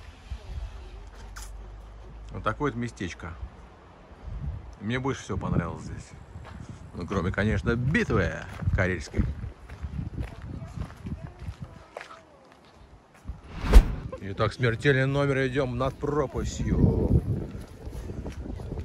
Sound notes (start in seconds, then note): 9.4 footsteps sound